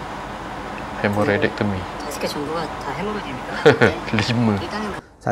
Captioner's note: laughing